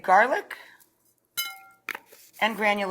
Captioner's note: bracelets clink